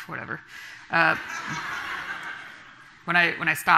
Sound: audience laughing

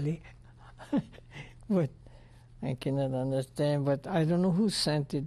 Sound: laughs

